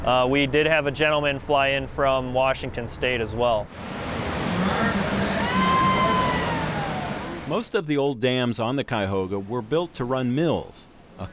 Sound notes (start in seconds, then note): 3.7 rapids roaring; 5.5 scream